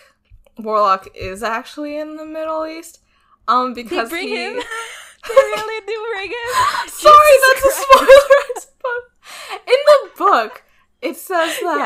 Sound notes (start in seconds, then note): 7.7 both laugh